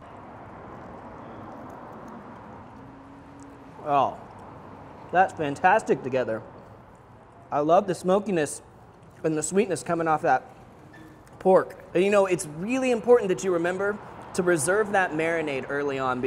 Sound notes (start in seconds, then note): none